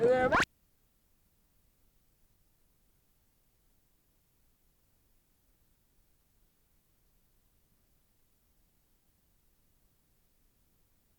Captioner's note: silent